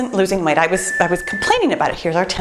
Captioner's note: timer beeps